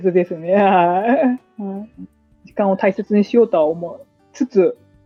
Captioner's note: laughs